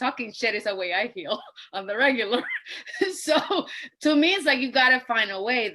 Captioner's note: laughs